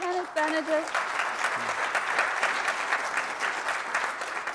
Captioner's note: applause